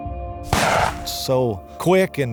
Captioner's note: shooting